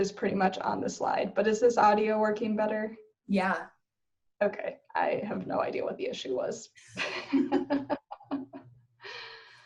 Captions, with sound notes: is pretty much on the slide, but is this audio working better? - Yeah. - Okay, I have no idea what the issue was (laughs).